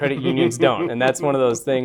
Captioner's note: laughter